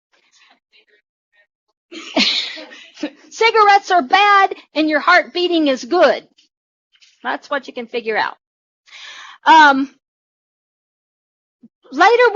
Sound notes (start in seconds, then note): 6.8 laughter